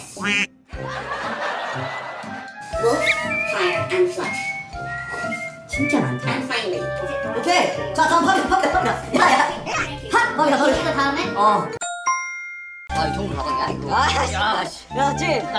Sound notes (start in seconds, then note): 4.2 whistling